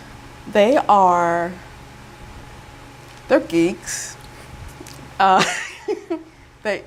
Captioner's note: chuckle